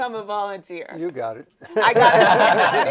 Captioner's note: laughing